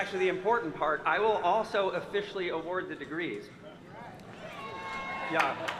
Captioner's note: applause